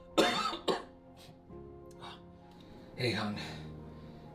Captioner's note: Ernesto coughing